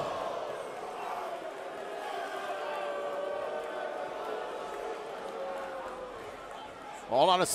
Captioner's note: crowd cheering